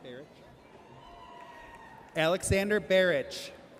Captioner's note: audience cheers